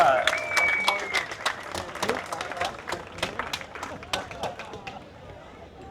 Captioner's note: applause